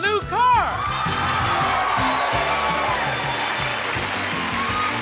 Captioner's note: lively music; audience cheers; audience applauds